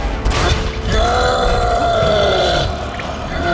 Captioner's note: roar; battle cry